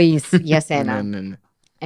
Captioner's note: he laughs